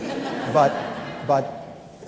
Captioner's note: laughter